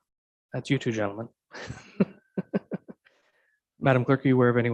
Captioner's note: chuckling